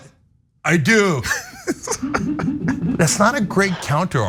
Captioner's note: laugh